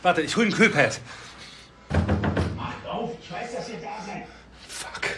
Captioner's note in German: Olaf klopft